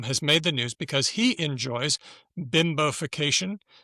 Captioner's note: none